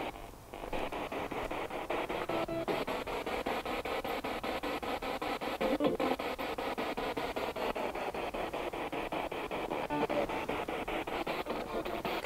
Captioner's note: noise of the spiritbox in the background